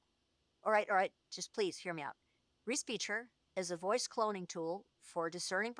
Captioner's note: VM voice